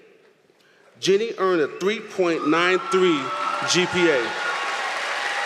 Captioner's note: applause